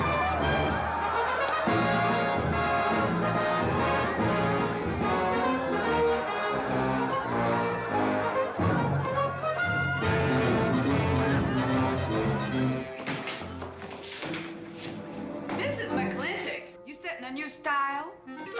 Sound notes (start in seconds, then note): 0.0 goofy dramatic music; 13.0 doors bursting open